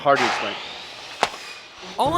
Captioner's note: loud construction equipment